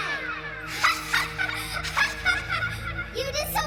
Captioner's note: Young Andre laughing